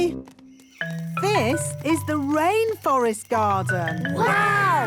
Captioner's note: rainforest sounds